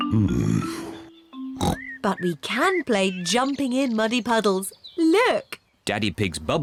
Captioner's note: oinks